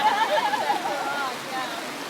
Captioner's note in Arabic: يضحك